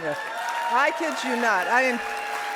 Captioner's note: audience applauding